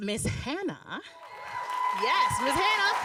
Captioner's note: audience applauding